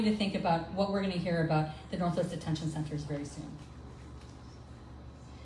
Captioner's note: none